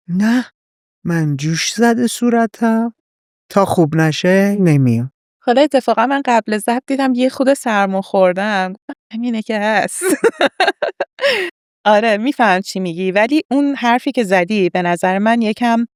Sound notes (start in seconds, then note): 10.0 laughs